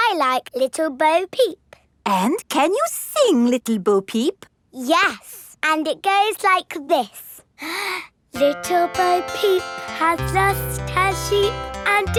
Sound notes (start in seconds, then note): 7.6 inhales